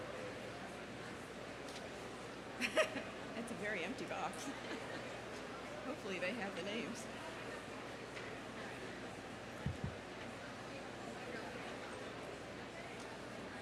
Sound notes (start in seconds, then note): 3.9 laughs; 9.7 crowd chattering